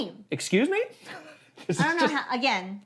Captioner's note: chuckles